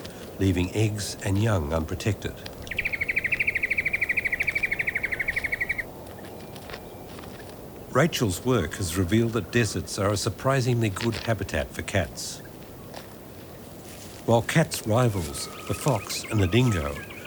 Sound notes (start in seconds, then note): 2.8 birds chirping